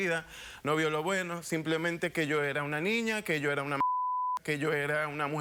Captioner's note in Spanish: Bip